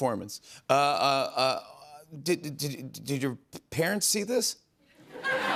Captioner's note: laughter